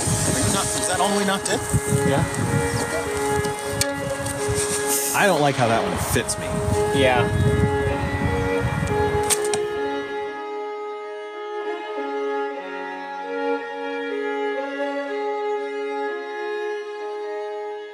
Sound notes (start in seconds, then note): 4.0 light laughter; 9.2 arrow striking sounds